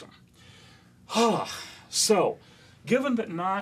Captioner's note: sigh